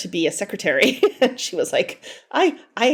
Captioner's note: laughing